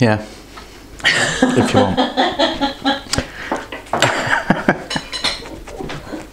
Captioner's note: laughter